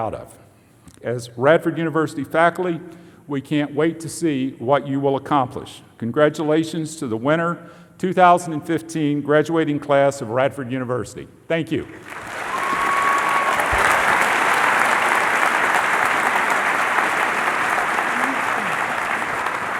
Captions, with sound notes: future that we will all be proud of. As Radford University faculty, we can't wait to see what you will accomplish. Congratulations to the winter 2015 graduating class of Radford U niversity. Thank you. [ Cheering and Applause ]